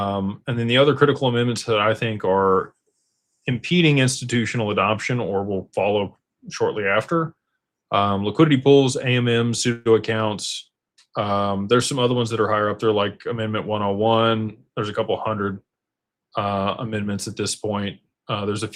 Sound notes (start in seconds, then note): none